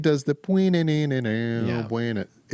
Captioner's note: imitates a note